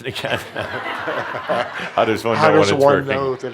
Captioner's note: laughter